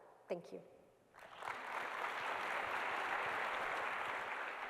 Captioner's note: applause